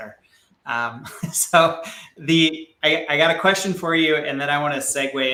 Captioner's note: chuckles